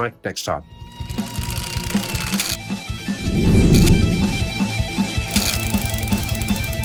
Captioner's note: gears ratcheting; heavy metal music